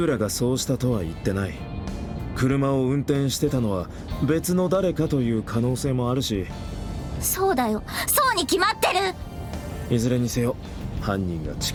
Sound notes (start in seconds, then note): none